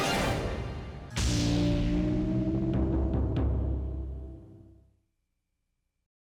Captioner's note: bolting thunderous insignia